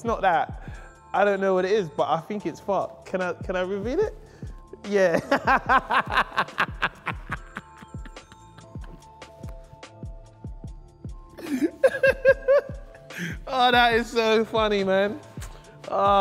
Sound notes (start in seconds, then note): 5.2 laughs